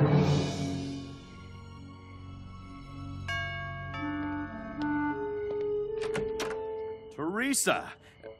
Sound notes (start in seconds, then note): 3.2 doorbell ringing